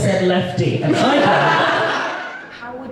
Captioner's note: audience Laughs